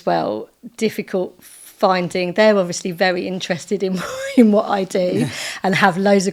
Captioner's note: laughing